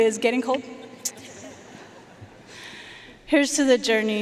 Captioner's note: audience laughing